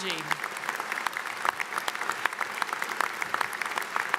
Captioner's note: audience applauds